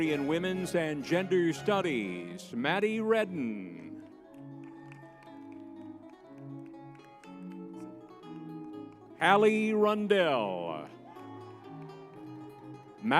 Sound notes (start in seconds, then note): 4.6 crowd cheering; 4.6 lively music; 11.7 crowd cheering